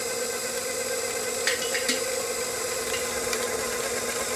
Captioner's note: grinder whirring